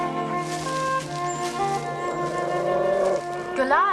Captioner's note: dog growling